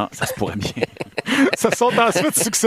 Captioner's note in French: rires